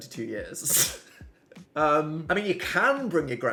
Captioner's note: laughs